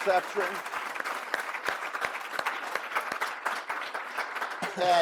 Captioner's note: audience applause